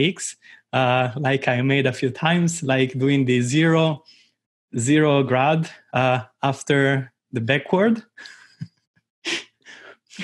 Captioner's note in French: rires